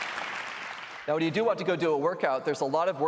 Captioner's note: applause